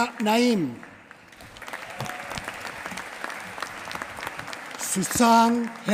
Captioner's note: applause